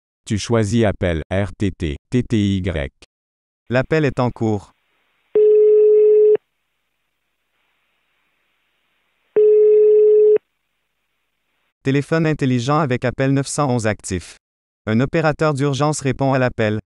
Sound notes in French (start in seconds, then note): 5.3 tonalité d'appel